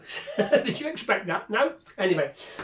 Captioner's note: laughs